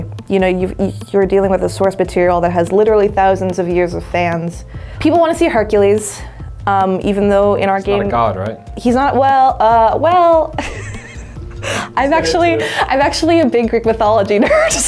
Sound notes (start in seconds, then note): 10.6 laughing